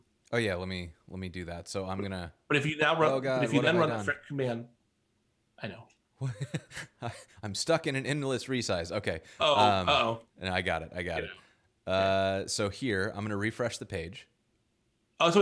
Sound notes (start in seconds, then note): 2.8 murmurs